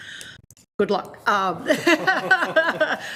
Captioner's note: laughs